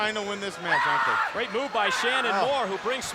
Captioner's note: screaming